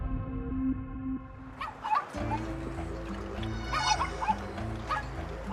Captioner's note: chickens clucking